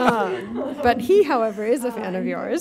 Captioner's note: laughing